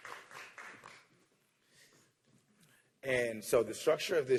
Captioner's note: applause